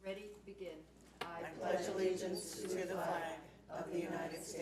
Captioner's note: crowd